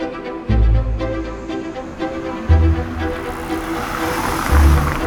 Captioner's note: bustling street sounds